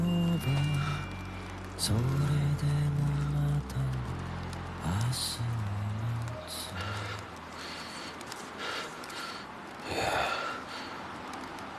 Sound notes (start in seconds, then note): 6.8 pants slowly; 10.5 breathes shallowly